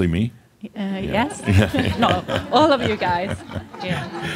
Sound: some laughter

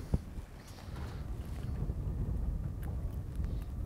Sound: breeze blowing

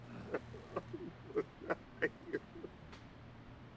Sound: groaning

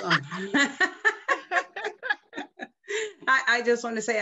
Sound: laughing

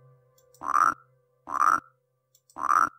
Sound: frog Croaks

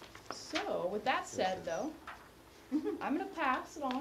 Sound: laugh

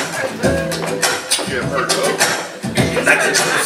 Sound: vocal percussion

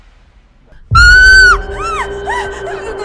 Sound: shouts

